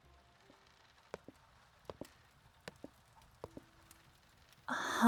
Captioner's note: high heel footsteps